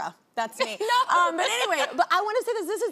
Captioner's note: laughs